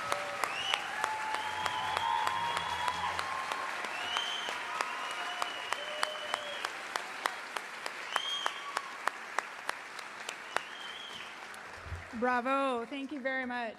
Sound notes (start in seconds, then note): 3.2 applause; 6.8 cheering and applause